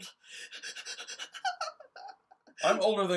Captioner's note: laugh